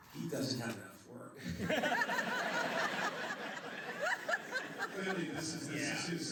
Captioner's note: laughter